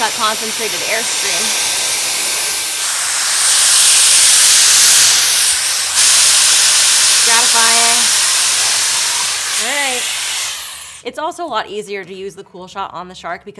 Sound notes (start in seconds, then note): 2.2 dryer whirs; 8.6 dryer whirs